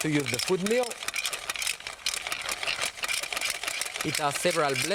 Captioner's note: food mill grinding